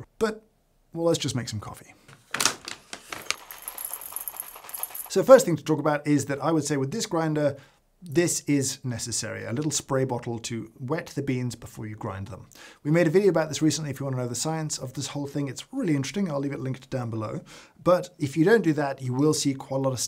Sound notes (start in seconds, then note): 2.7 beans pouring